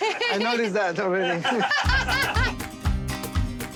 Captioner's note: laughs